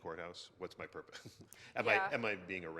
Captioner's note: laughs